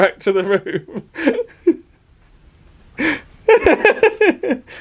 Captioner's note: laughing